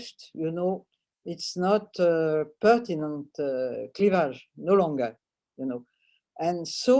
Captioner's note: french